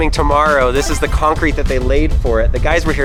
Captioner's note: power up sound